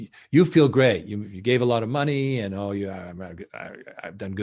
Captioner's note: murmuring